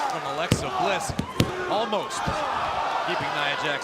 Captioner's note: crowd cheering